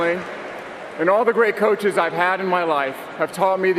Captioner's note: cheering and applause